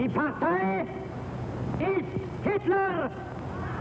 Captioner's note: Nazi speaks German